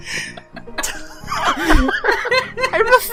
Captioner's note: laughter